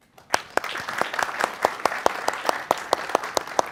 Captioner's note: audience claps